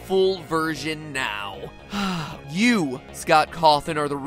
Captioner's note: sighs